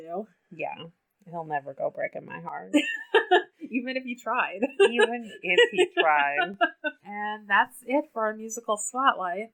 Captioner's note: laughs